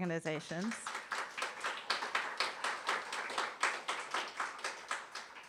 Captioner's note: audience applauding